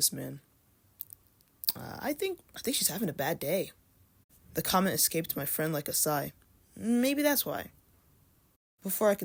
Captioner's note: smacks lips